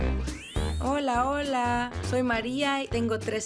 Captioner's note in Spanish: hablando en coreano